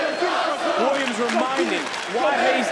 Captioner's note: crowd chants "this is awesome"